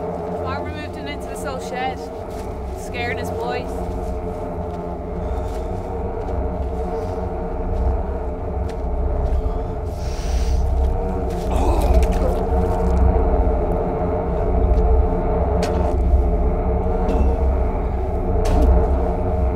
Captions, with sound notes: Farmer moved him into this old shed. Scared his boys. (deep breathing) (retches)